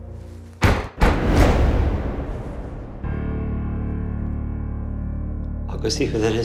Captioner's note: knock. Knock. Knock